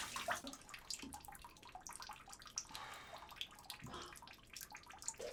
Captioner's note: water dripping